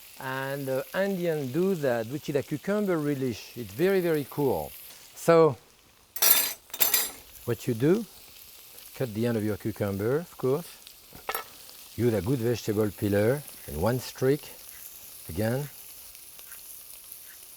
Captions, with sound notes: And the Indians do that, which is a cucumber relish. It's very, very cool. (utensils clinking) What you do, cut the end of your cucumber, of course. You need a good vegetable peeler in one streak again. (peeler scraping)